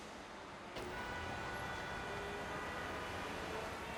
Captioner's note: traffic clamors